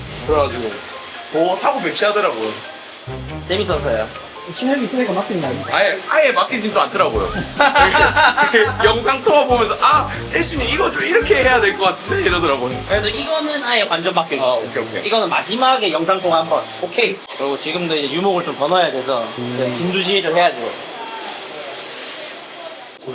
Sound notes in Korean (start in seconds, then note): 7.2 웃음